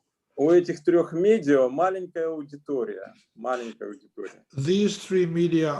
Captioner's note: speaking Russian language